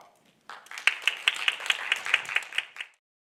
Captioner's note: audience clapping